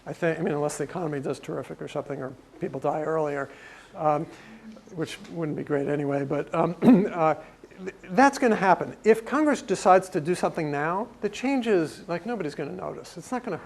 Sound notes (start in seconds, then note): 6.8 cough